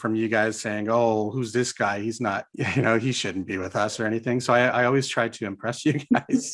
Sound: chuckles

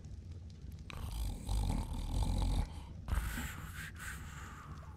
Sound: snoring

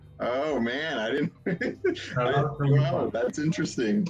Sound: laughs

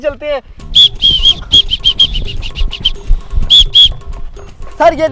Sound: whisteling

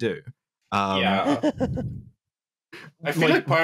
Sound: laughs

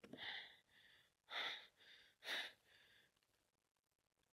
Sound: heavy breathing

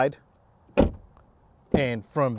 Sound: door thudding

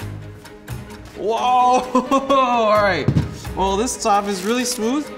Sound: laughs

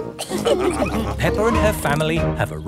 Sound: all laughing

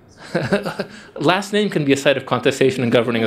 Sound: chuckles

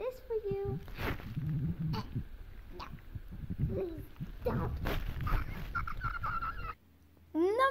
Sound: choking; continues making awkward choking sounds

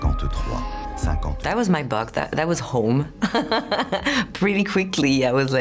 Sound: laughs

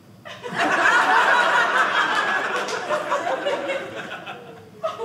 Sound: audience laughing

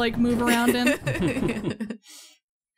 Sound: chuckle

